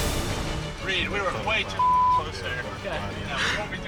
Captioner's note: beep